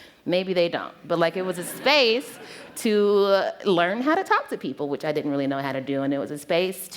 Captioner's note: laughter